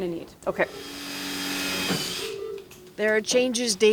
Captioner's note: power drill